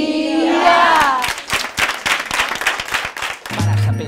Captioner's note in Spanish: aplausos